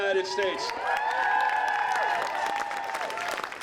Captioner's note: applause